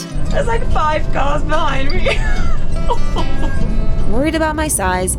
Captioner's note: laughing